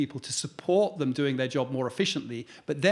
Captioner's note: none